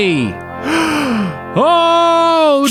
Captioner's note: inhales